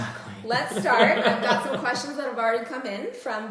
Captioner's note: laughter